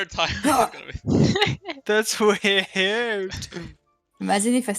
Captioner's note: haha